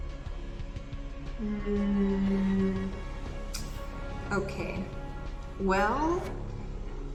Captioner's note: sucks teeth